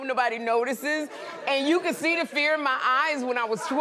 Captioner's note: laughter